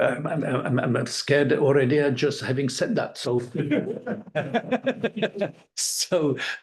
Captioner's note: laughing